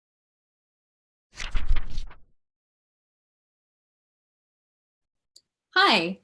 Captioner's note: fluttering Pages